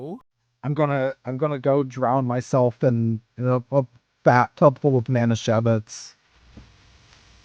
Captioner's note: crunchy mic